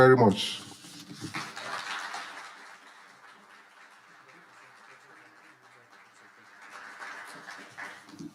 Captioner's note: audience applauding